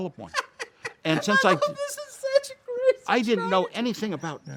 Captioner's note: laughing